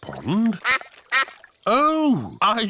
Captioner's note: quacking